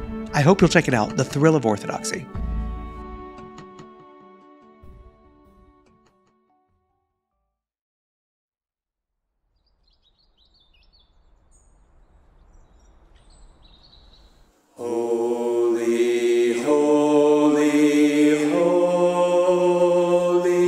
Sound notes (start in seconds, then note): 10.4 birds chirping